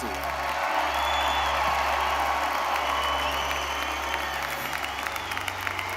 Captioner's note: audience applauding; audience cheering